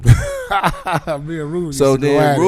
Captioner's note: laughing